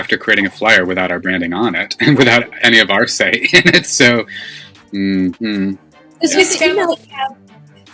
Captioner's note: unhappy Mmhmming